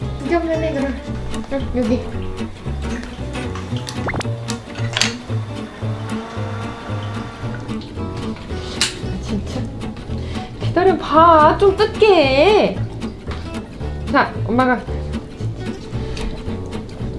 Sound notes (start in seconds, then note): 5.2 SFX: Electric fan; 9.8 laugh